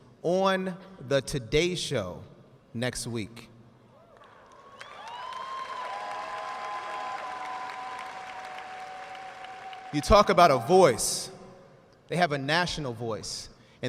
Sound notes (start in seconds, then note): 4.1 audience cheering and applauding